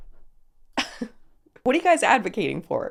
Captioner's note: host chuckling